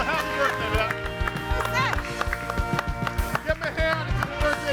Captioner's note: audience applauding